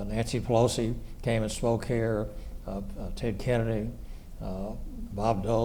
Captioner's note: none